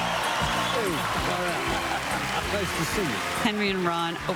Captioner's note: applause